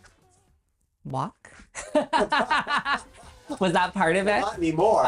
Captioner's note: laughs